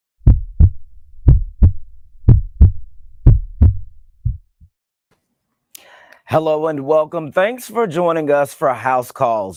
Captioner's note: heartbeat